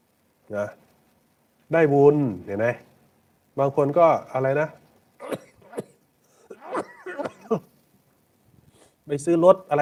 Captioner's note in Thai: เสียงหัวเราะ